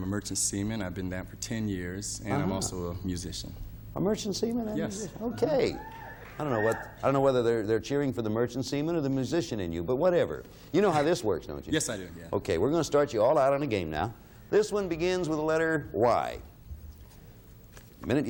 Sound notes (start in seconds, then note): 5.1 audience cheering